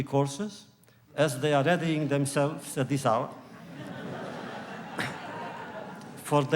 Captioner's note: laughter